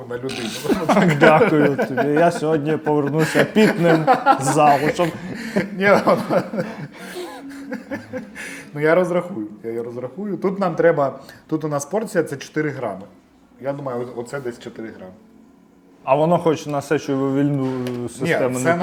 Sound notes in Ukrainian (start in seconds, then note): 0.2 сміх